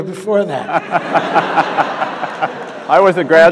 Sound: audience laughing

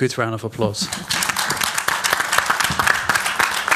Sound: applause

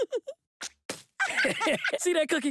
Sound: giggle; laughing

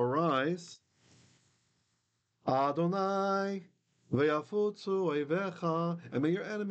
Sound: Hebrew

